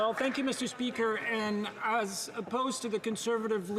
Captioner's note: some Applause